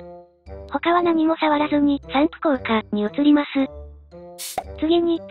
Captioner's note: spraying effect; Spraying Effects